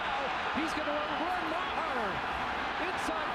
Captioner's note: cheering and applause